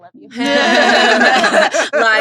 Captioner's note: all laughing